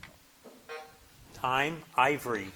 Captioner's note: buzzer buzzing